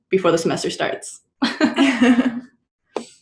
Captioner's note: giggling